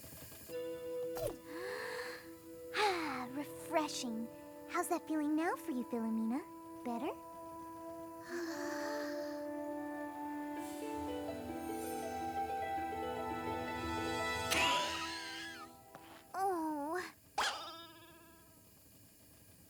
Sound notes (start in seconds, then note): 1.4 inhales deeply; 8.2 inhales deeply; 14.5 coughs; 17.4 boing!